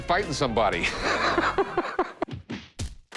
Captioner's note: laughs; french music